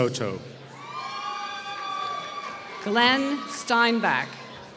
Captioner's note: applause